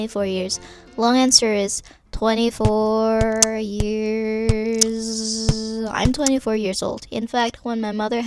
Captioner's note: beat boxing